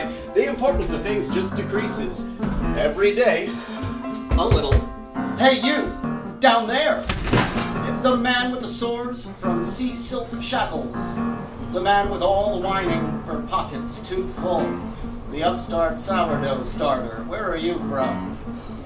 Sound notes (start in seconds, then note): 3.9 knocking